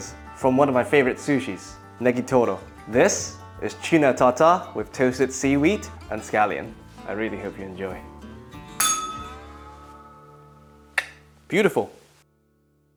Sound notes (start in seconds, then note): 8.8 bell rings